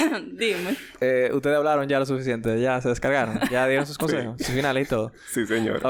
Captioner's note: laughs